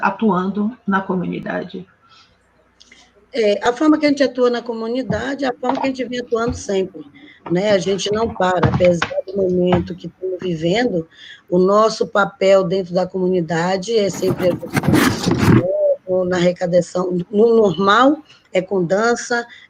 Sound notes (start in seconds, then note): 0.0 speaking Portuguese; 6.5 speaking Portuguese